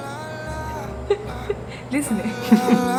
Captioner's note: laughs